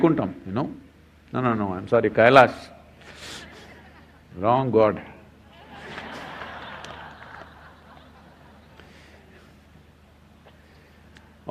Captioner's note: laughter